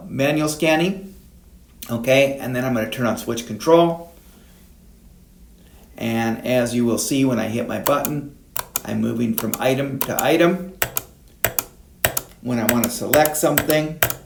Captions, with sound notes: Manual scanning. Okay, and then I'm gonna turn on Switch Control. And as you will see, when I hit my button. (switch pushing) I'm moving from item to item. (switch pushing) When I wanna select something.